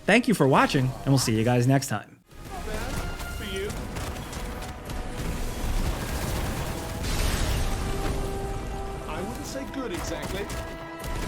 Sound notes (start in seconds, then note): 2.3 guns firing; 2.3 bombs exploding